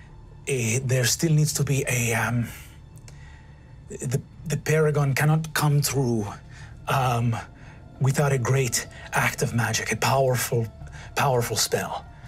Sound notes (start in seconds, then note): none